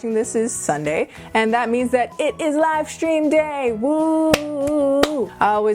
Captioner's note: clap,clap,clap